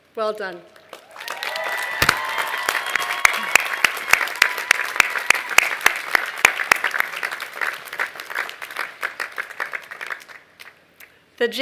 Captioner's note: applause